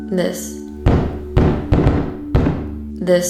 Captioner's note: knocking